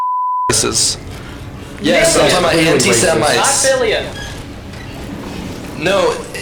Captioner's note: overlapping chatter